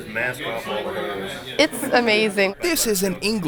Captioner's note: voiceover